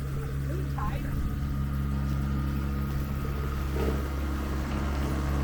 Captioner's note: engine drowns out speaker